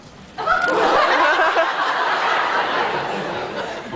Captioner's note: laughs